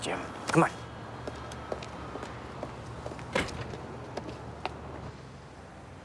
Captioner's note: footstep